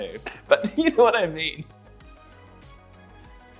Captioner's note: laughs